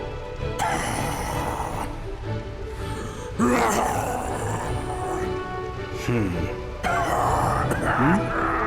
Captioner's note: Guai coughs